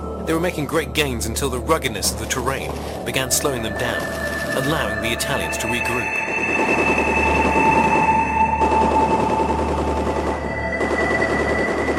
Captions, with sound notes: They were making great gains until the ruggedness of the terrain began slowing them down, allowing the Italians to regroup. [guns firing]